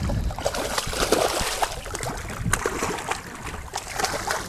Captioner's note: water splashing